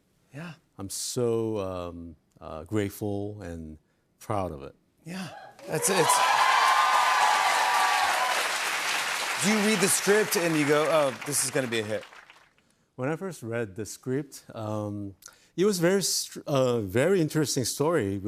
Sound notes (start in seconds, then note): 5.7 applause